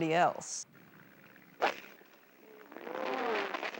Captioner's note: whacking